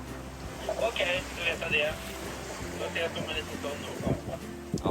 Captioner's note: VHF radio